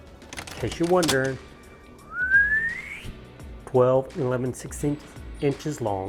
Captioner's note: whistles